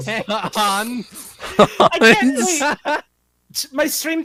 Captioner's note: laughing